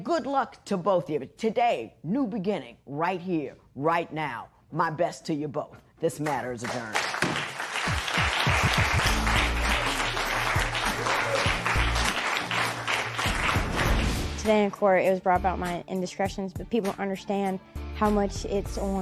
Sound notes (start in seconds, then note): 7.8 applause